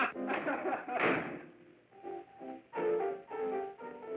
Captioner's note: laughing; door slams